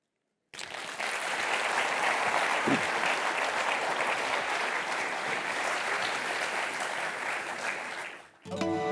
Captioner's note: applause